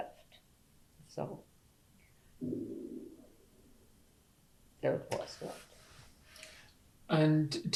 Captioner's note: pauses for 3 seconds